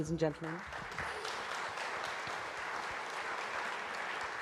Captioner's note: applause